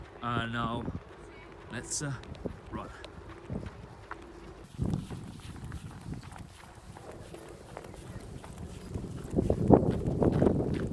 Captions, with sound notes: and let's run. (running footsteps)